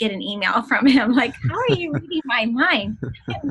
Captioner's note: laughter